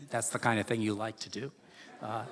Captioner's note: laughter